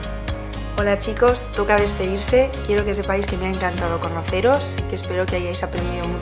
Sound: speaking in foreign language

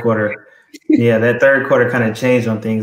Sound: laugh

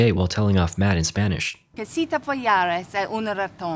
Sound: angry in spanish

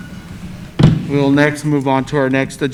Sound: hitting a gavel

